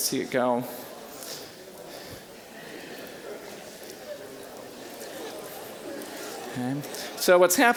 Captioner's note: general chatter